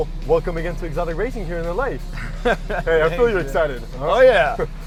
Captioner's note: chuckles